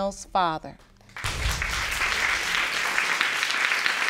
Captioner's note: audience claps